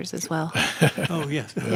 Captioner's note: laughing